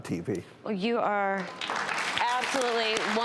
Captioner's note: applause